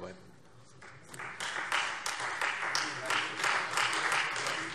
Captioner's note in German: Beifall Freie Demokraten